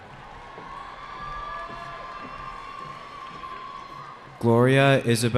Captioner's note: cheering